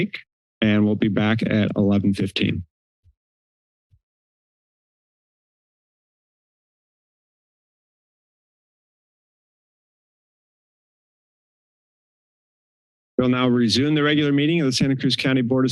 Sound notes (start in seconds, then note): 3.0 pause